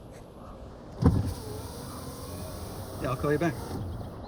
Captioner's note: Prudence knocks on car window; car window whirring